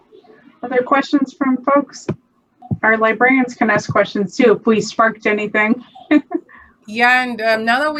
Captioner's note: laughs